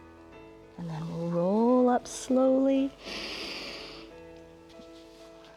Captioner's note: inhales